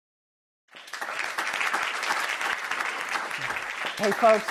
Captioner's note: applauding